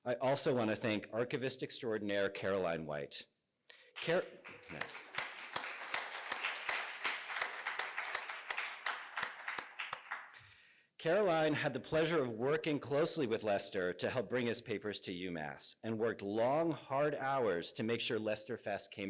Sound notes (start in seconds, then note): 3.9 applause